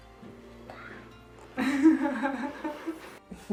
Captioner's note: laughs